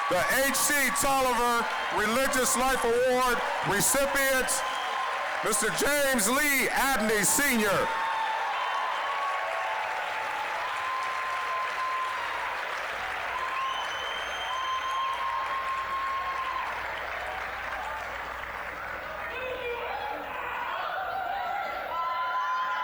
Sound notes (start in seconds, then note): 8.4 applause, cheering